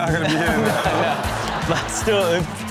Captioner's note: crowd laughing